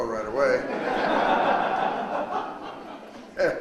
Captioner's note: audience laughs; laughs